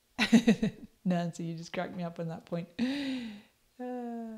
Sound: chuckles; laughs

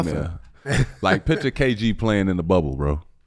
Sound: Metta laughs

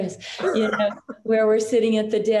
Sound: chuckles

